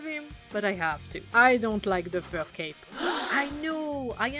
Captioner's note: audience gasping